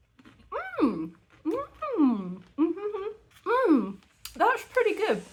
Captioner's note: happy mouth noises